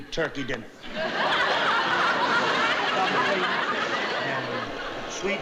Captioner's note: audience laughing